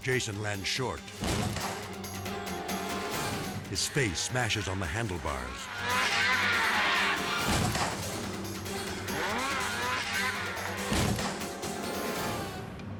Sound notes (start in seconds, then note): 1.9 dramatic music; 5.5 dramatic music; 5.5 snowmobile buzzing; 7.1 dramatic music; 7.1 snowmobile thudding; 10.7 dramatic music; 10.7 snowmobile thudding